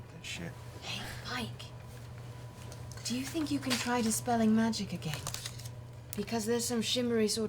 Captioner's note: whispers